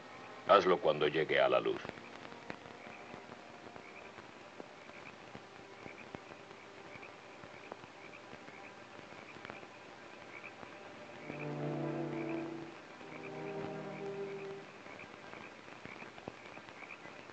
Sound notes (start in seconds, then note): 11.0 suspenseful music; 12.4 frogs croaking